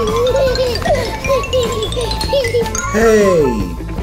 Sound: Gaga Baby laughs; xylophone trilling

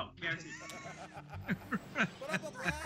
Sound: laugh

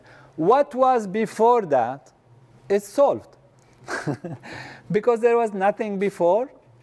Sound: laugh

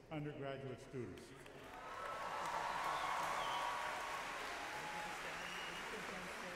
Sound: audience cheers and applauds

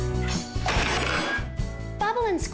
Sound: crash!

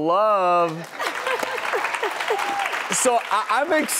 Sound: audience claps

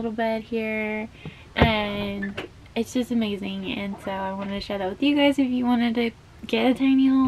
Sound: none

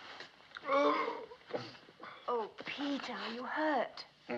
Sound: groaning

